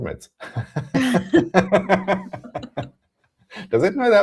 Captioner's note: laughter